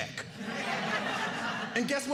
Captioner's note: audience laughing